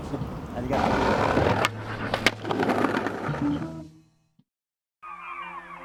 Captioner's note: skateboard wheels roaring; birds howling and chirping